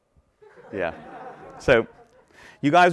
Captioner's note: audience laughing